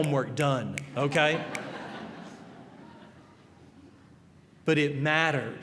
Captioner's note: finger snapping; laughter